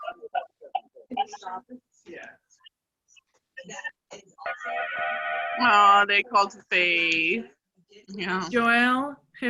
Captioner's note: cheering